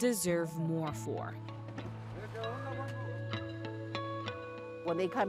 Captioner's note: gentle music; farmworkers talking